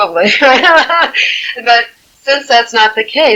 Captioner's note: laughing